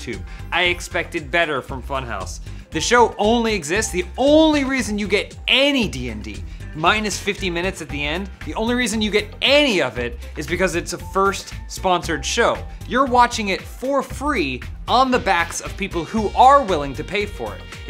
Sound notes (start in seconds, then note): none